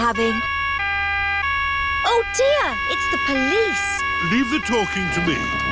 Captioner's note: siren wailing